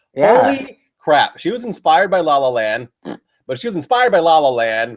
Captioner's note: thbbp!